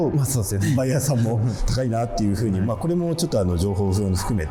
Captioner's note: breath